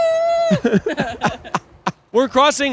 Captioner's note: laughing